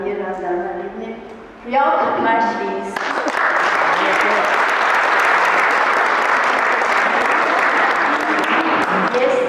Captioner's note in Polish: Aplauz